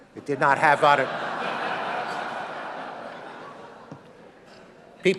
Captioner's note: audience laughing